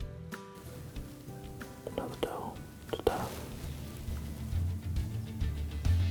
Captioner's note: whispering